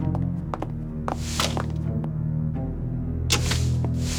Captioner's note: footsteps